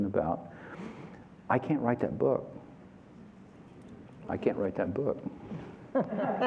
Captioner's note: laughter